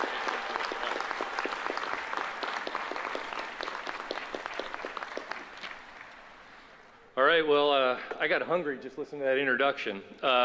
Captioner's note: applause